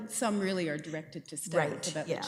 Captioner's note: laughing